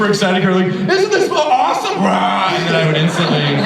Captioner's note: roars